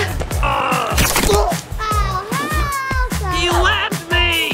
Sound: grunts

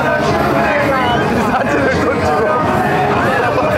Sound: laughs

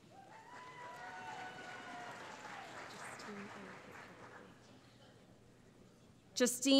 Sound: cheering

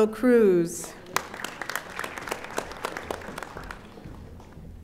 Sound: audience applauding

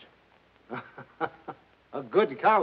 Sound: laughs

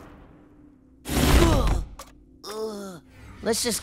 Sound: groaning

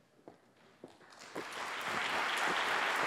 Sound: applause

